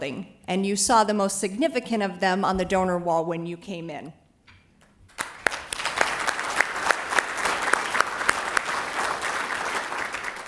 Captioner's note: applause